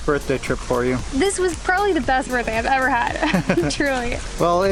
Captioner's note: laughter